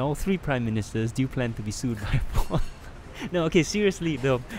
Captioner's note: laughter